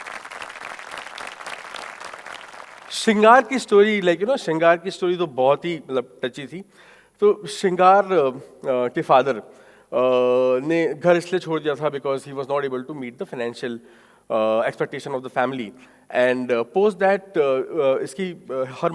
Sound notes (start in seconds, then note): 0.0 audience applauding; 6.5 speaking in foreign language